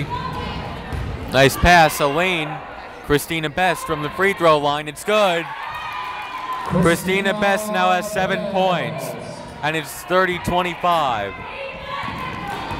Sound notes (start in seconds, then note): 5.4 cheering; 11.7 cheering